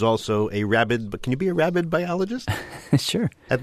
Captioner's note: laughs